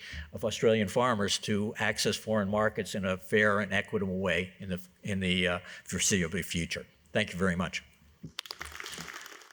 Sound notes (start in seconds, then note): 8.3 applause